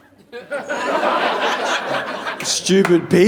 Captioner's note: audience laughing